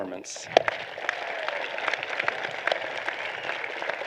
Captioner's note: applause